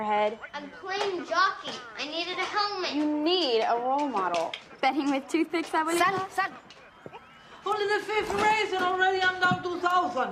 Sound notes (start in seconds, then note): none